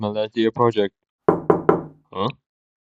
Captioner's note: knock, knock, knock